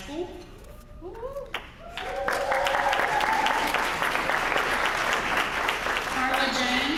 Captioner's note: applause